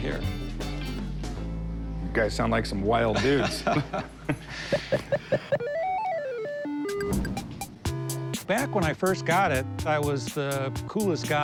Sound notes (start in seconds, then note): 3.1 chuckling; 5.6 video game sounds